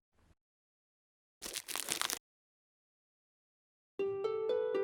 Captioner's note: crack!